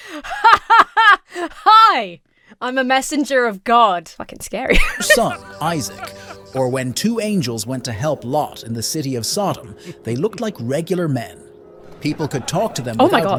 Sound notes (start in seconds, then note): 0.1 laughs disingenuously; 4.6 laughs